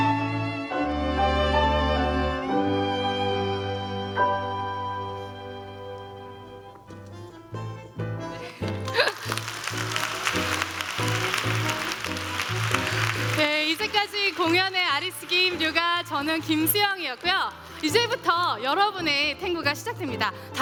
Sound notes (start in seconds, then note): 8.5 applause